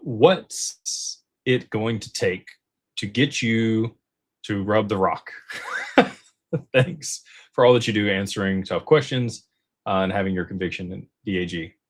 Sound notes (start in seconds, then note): 5.4 laughter